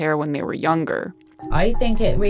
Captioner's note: soundbite of archived recording